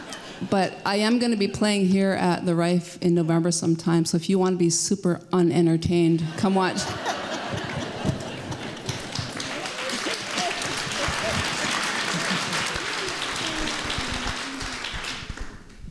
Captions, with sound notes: But I am going to be playing here at the Reif in November sometime so if you want to be super unentertained come watch. (laughter and applause)